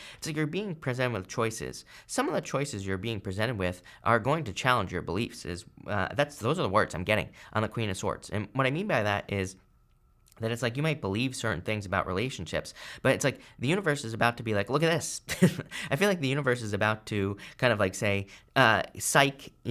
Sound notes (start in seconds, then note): 15.3 laughs